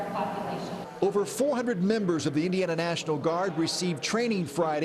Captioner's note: voiceover